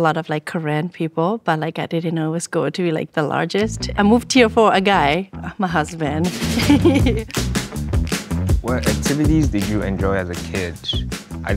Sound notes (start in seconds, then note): 6.2 chuckling; 7.0 upbeat rhythmic music continues